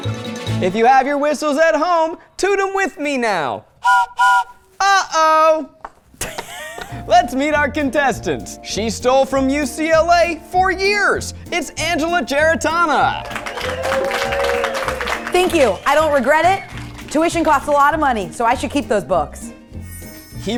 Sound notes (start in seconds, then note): 3.8 train whistle blowing; 13.1 everyone clapping